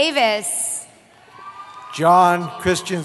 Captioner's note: cheering